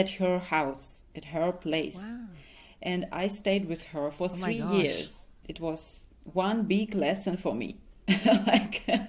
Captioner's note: laughs